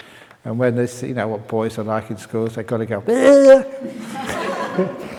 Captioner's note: laughter